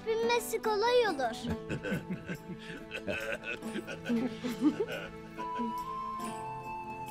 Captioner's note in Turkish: Gülme sesleri